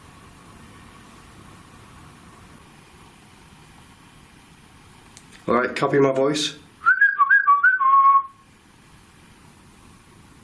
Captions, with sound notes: - Alright, copy my voice. (whistling)